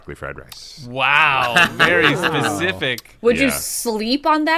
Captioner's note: laughter